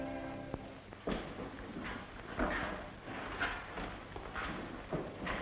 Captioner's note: footstep